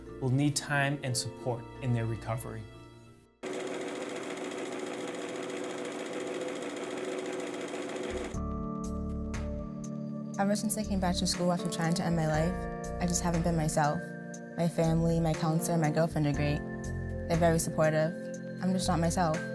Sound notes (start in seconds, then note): 3.4 machine noise